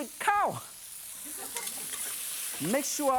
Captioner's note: audience laughing